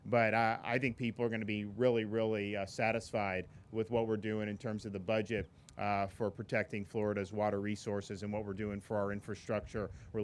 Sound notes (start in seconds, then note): none